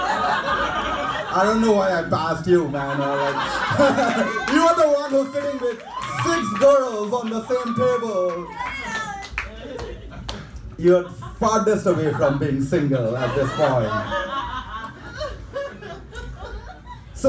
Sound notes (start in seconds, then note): 0.0 audience laughing; 3.0 laughing; 8.9 audience clapping; 13.9 audience laughing